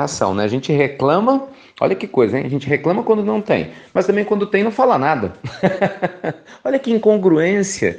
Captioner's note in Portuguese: risos